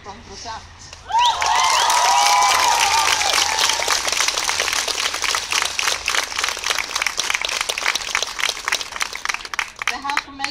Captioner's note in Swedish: Jubel och applåder